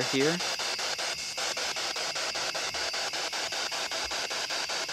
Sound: loud, choppy static

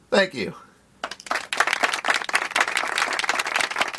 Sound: applause

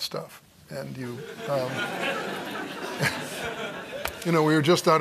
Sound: laughter

